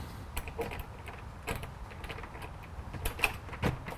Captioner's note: key rattles